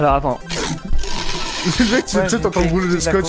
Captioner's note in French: bruit de scotch